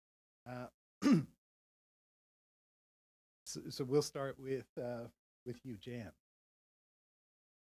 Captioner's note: cough